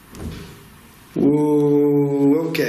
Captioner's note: soft thudding